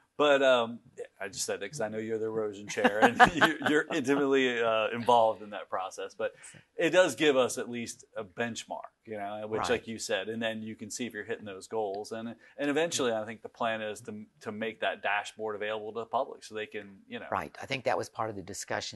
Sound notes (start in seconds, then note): 2.7 laughs